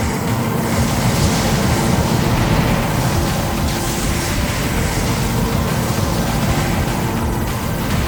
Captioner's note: gulp